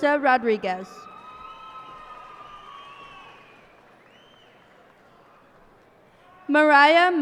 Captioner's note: cheers and applause